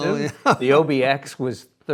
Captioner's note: laughing